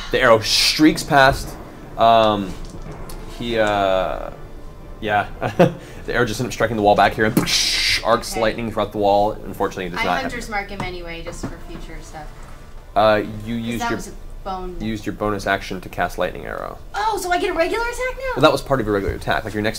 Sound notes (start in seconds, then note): 7.7 explosion